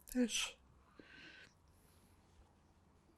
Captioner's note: pauses 8 seconds